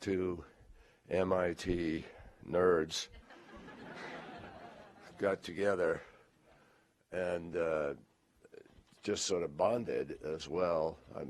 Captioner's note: laughter